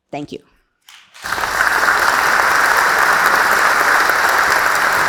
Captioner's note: audience applauding